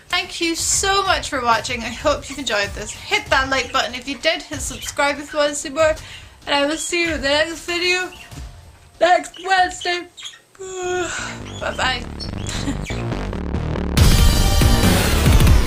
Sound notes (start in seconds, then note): 10.5 yawn